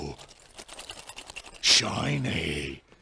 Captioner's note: jingle jangle